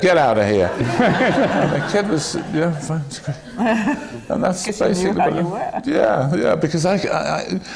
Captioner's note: laughter